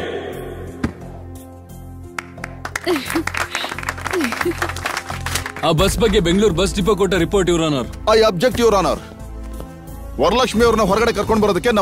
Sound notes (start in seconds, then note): 2.1 applause